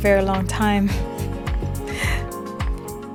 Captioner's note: laughs